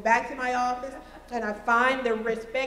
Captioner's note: laughter